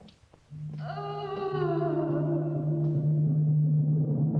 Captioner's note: woman moaning continues; suspenseful orchestral music